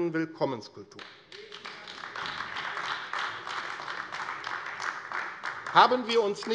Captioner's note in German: Beifall AfD